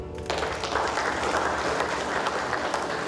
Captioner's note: applause